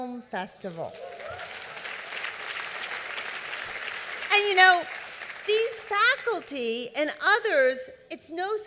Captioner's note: applause